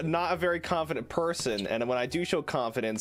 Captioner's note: shoe squeak